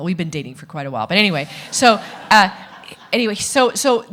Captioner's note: audience laughing